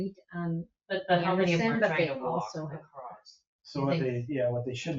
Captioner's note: people chatter